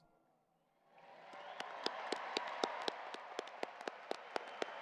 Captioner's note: audience applauding